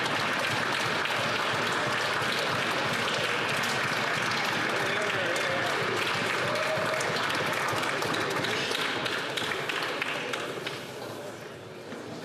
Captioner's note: some Applause